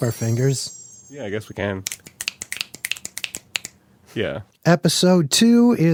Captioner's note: finger snaps